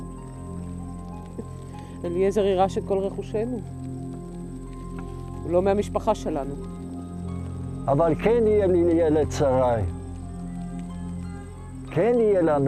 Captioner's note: speaking in Hebrew